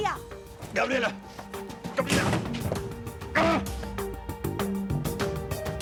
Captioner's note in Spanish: Portazo